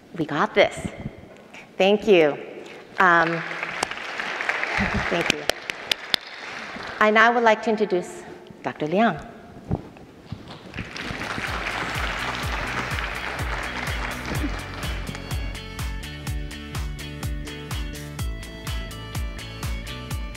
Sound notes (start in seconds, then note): 3.1 audience applauding; 10.6 audience applauding; 10.9 upbeat music